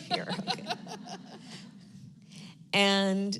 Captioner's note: laughter